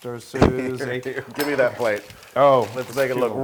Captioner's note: laugh